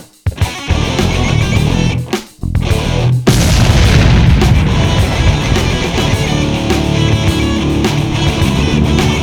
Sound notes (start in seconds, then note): 3.3 flames whoosh